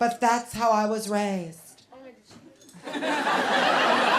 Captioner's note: laughter